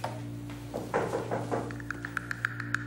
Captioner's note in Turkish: Kapı çalıyor